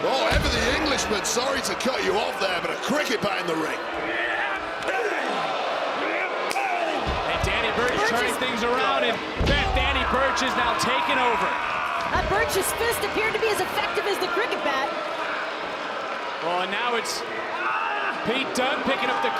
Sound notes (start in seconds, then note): 4.9 crowd boos; 4.9 wrestlers groan